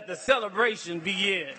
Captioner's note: clapping